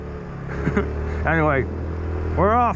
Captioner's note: laughing